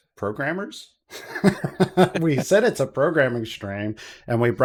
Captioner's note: laughs